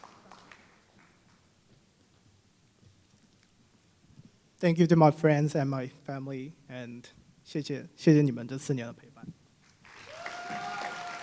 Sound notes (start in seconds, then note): 0.0 applause; 8.5 foreign Language